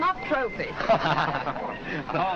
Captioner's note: laughter